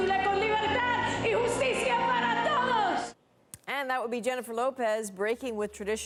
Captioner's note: speaking spanish